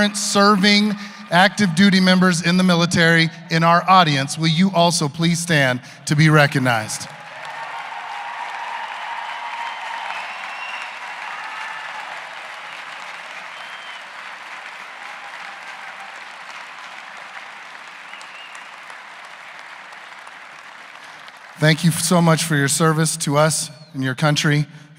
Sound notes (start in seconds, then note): 9.4 cheers and applause